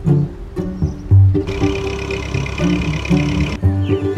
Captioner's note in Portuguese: Pássaros; Motor de trator; Pássaros